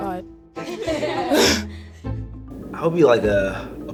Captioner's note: girls laughing